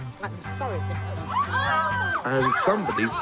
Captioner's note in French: en hurlant